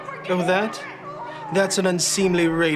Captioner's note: Jennifer yelling